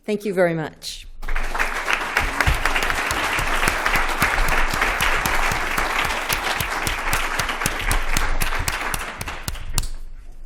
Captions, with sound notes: Thank you very much. [APPLAUSE]